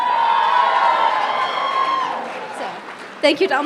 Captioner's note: crowd cheering